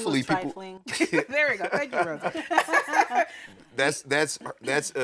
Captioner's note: laughing